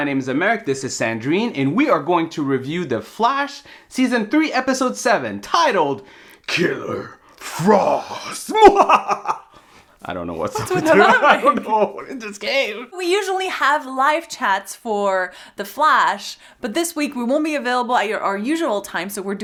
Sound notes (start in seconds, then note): 8.4 evil laughter